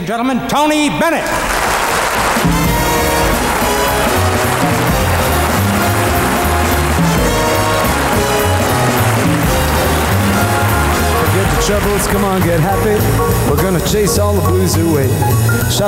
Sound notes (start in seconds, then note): 1.5 audience applauding; 3.5 upbeat big band music